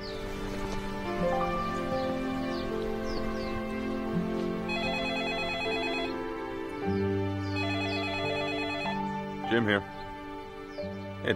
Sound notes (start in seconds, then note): 4.6 phone rings